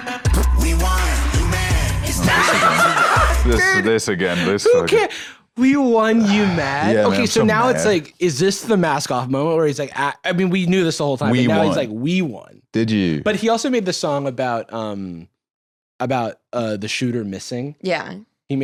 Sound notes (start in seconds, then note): 2.2 laughs